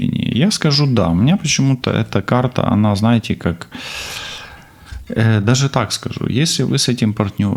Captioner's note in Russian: тяжело вздыхает; вздыхает